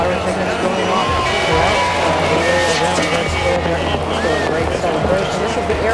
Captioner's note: Arabic; first bells sound of the millennium in the cathedral